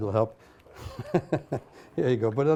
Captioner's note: laughs